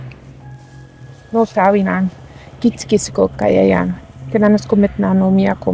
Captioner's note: praying in Cree